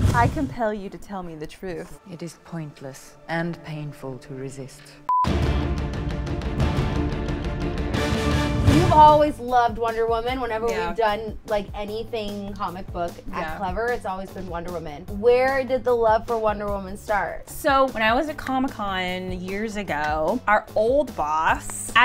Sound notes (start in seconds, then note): 5.0 monotonous high pitch sound; 5.8 upbeat triumphant music